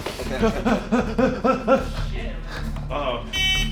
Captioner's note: breathing heavily